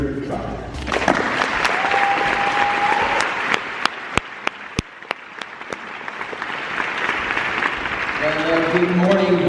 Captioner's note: applause and cheering